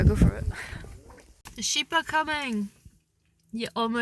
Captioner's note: excitedly